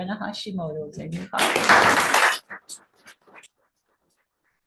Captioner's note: everybody clapping